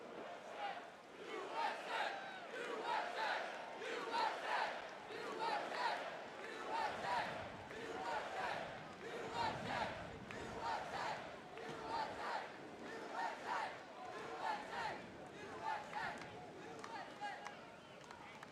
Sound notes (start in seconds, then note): 0.0 audience chanting "U.S.A."